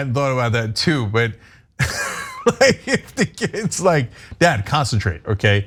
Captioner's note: laugh